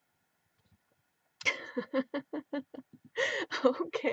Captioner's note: laughing